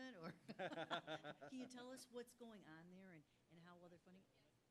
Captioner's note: laugh